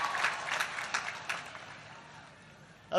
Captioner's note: applause